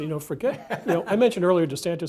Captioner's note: laugh